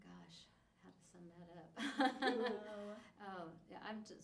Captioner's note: laughs